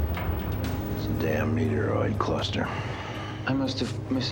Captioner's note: sighing